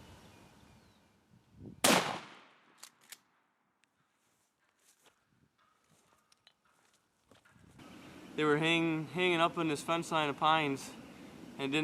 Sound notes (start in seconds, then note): 1.8 gun fires